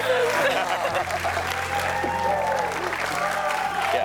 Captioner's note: both laugh